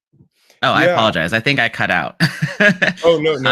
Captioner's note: laughs